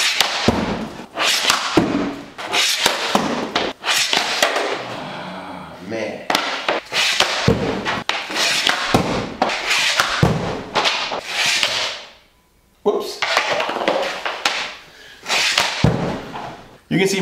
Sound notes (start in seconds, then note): 6.3 puck thuds against backdrop; 6.3 stick scrapes against floor; 15.2 stick scrapes against floor; 15.2 puck thuds against backdrop